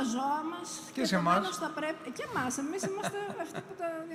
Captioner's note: laughs